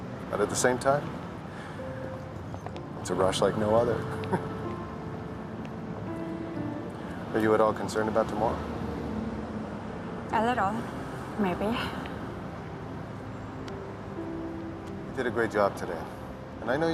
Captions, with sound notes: BUT AT THE SAME TIME... IT’S A RUSH LIKE NO OTHER. [ Chuckling ] ARE YOU AT ALL CONCERNED ABOUT TOMORROW? A LITTLE, MAYBE. YOU DID A GREAT JOB TODAY,